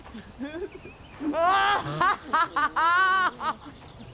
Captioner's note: laughter